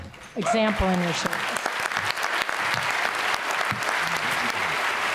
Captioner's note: applause